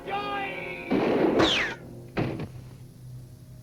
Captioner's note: gun fires